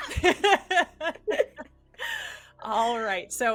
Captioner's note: everyone laughs